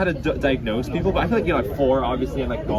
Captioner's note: none